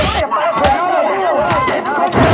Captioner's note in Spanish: barullo, puñetazos, chasquidos electrnicos